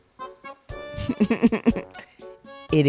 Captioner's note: laughter